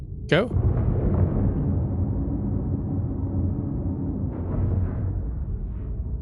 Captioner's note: wind blowing